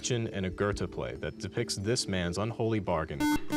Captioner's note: buzzer